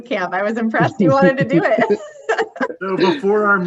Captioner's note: laughs